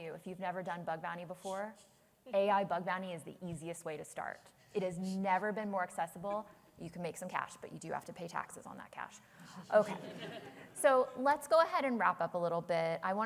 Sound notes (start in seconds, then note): 9.7 laughter